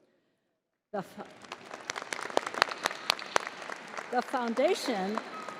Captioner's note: crowd applauding